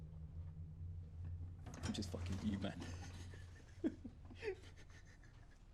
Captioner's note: laughing; laughs